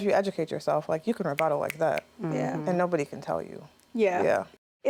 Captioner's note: snapping fingers